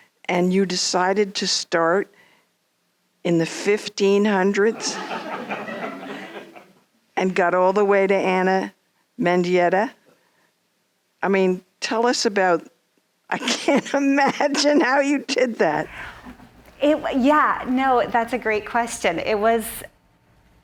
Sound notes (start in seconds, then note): 4.7 audience laughing